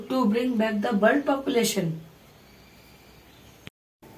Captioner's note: bird